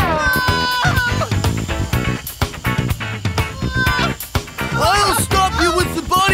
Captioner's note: screaming